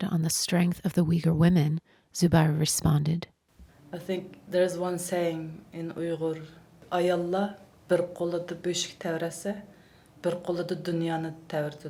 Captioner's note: speaks in Uyghur language